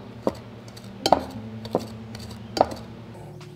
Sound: mixing sounds

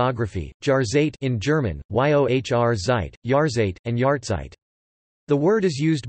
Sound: in German

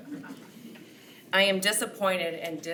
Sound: attendees chuckle

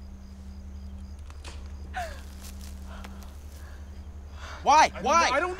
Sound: branch cracking

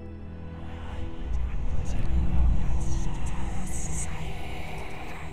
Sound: ghostly whispers

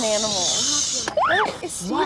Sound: shushing

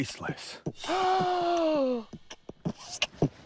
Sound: gasps; beatboxing

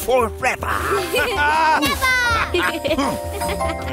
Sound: laughing

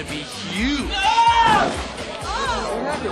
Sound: man falls and screams in background

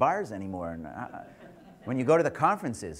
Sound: audience laughter

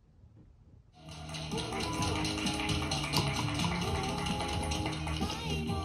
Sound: applause~~~~

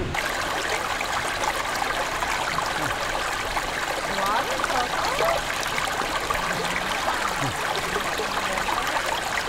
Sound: water sounds

